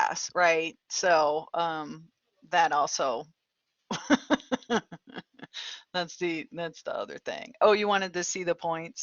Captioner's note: laughter